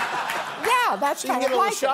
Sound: laughter

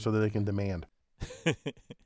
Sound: laugh

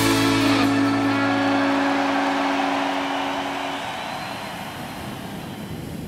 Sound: cheering

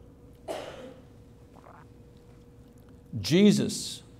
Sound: coughing

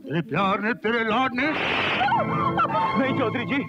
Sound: slap

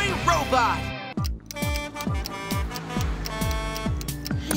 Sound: horn honking

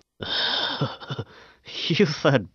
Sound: laughs

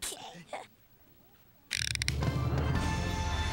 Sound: cranking

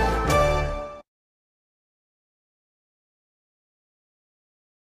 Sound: upbeat orchestral music; silence

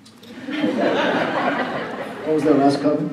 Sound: laughing

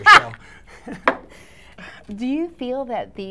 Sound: laughing

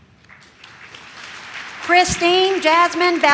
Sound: audience claps

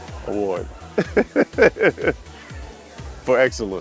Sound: chuckles

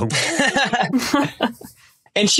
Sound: group laughing

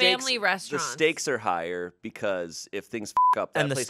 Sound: beep

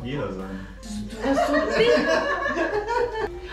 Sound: laughing

